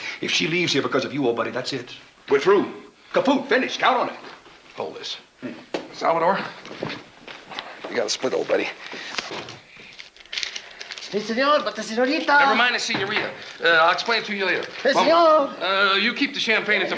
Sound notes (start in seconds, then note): 14.5 Salvador speaking in Spanish